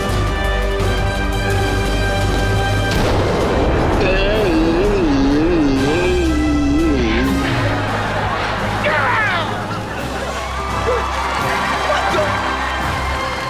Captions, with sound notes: [groaning] Down! What the-?